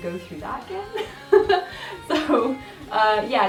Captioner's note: laughs